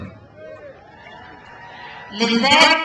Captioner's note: crowd cheers